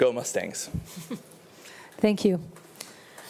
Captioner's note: laughing